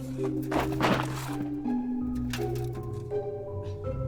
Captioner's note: earth clatters